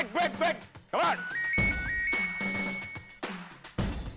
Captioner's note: phone ringing